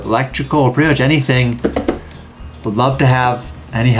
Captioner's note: tapping desk